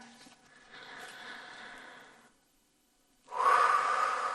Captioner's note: deep breathing